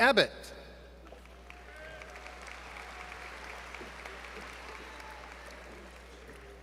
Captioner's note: applause